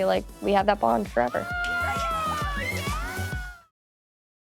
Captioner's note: all cheering